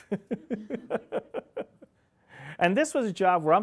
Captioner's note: laughing